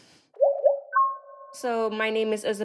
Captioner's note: alert chiming